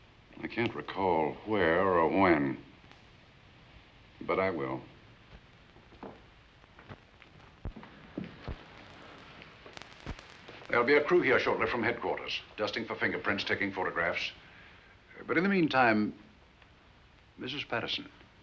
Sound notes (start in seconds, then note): none